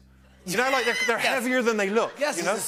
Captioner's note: laughter